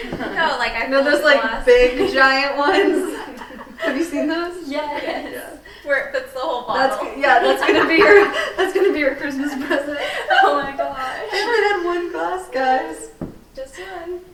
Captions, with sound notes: - You know like a big glass. - You know those like big giant ones. Have you seen those? - [Crowd] Yes. - Where it fits the whole bottle. - That's gonna be your, that's gonna be Christmas present. - Oh my gosh. - Everyone had one glass guys. - Just one.